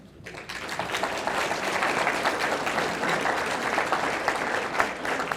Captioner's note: audience applauding